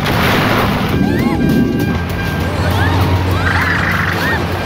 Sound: screaming

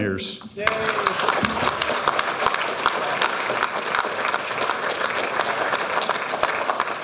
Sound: audience applauding

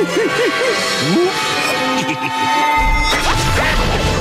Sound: chuckles

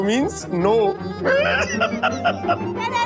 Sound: laughs

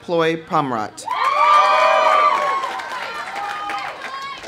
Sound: audience cheering; audience applauding

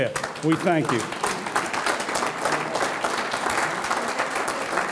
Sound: audience clapping

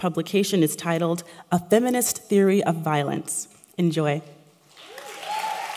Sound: applause

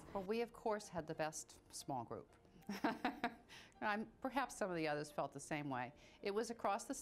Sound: laughs

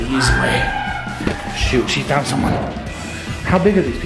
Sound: screaming

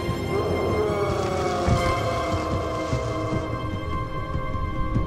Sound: Dumbledalf yells

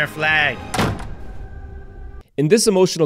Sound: door closing

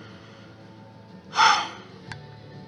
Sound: soft sighs

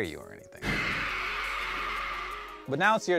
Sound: ghost screams

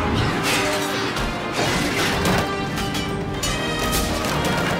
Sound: metal clangs

